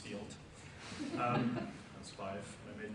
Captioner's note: audience laughs